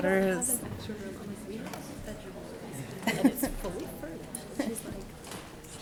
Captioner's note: audience chattering